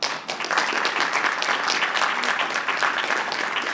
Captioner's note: applause